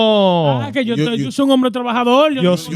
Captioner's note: speaking In Foreign Language